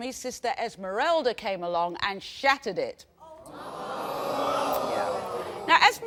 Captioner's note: audience reacting